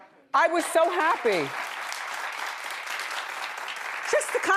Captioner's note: audience applauds